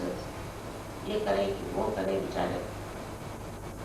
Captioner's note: hindi